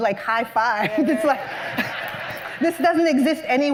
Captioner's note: laughter